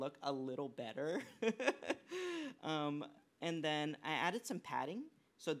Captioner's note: laughs